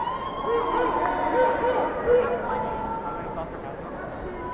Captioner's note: cheers and applause